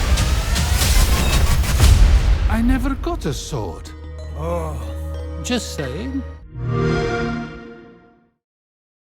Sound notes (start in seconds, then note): 0.0 intense music; 6.2 xbox sound